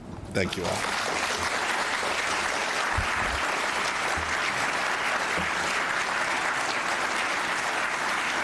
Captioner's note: applause